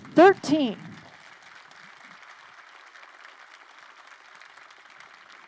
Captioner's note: crowd applauding